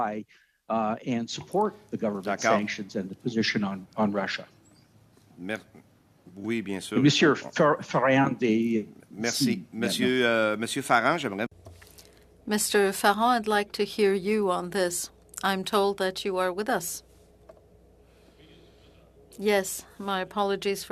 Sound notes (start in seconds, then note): 17.1 speaking French